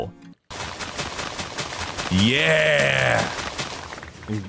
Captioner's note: grass breaking loudly; redstone firing